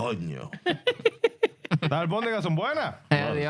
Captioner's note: speaking In Foreign Language